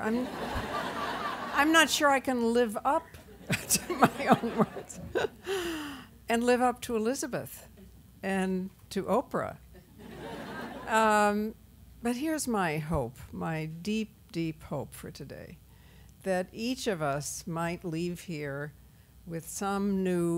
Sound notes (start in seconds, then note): 0.2 laughter; 9.8 laughter